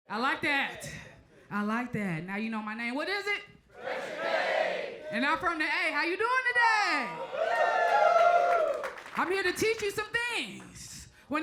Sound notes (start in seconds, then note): 3.7 crowd; 7.0 crowd cheers; 7.4 crowd applauds